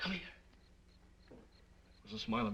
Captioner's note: insects chirping